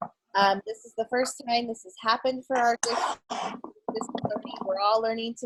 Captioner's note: murmur